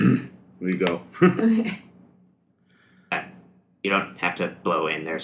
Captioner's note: grunts in agreement